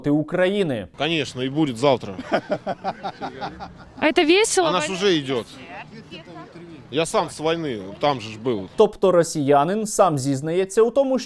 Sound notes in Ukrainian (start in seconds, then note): 2.0 сміються